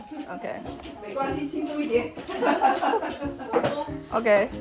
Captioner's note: laughing